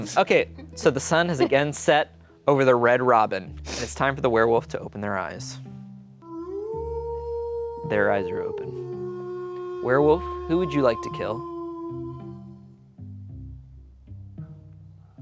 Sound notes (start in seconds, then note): 6.4 werewolf howling; 12.3 light music